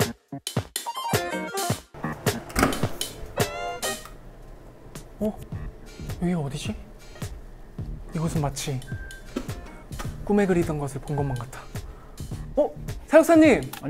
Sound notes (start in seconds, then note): 2.4 clunk